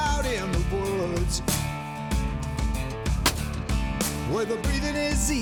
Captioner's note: gunshot